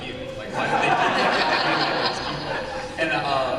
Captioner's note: laughter